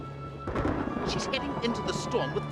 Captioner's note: thunder crashing